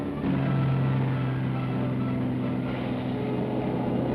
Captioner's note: boats rumbling